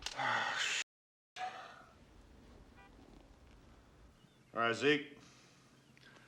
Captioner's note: sighing